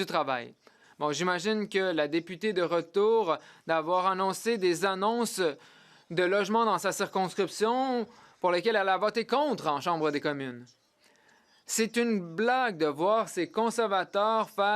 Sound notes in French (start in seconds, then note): 3.4 voix de l'interprète